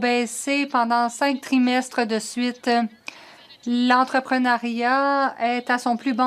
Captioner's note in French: voix de l'interprète